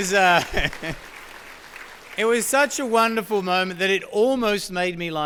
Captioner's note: laugh